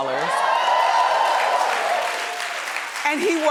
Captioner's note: audience cheering